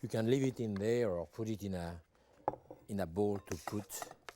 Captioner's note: spoon scraping